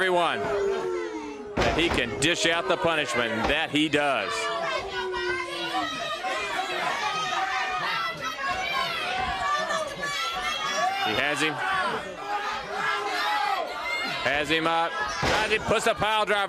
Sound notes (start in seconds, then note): 5.0 crowd chatter